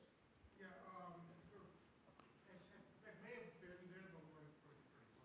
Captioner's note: man speaks off mic